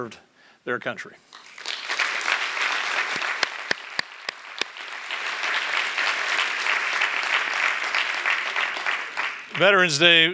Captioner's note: applause